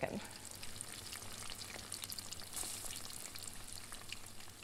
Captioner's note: crackling fire